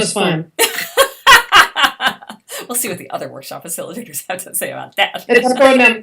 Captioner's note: laughing